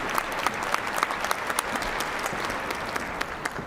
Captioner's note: applause